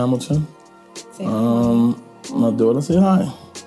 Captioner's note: voiceover